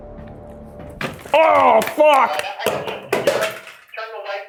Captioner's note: object clanks